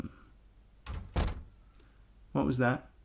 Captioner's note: door closes